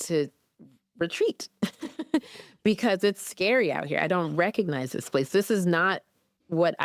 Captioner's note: chuckles